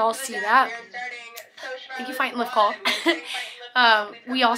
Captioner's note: chuckles